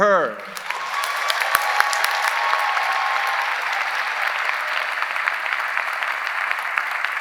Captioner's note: audience applauding; audience cheering